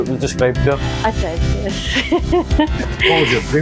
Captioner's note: laughter